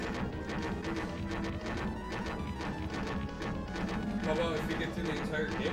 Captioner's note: fart